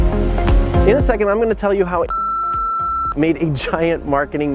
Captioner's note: beep